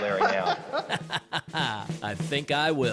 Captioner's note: laughter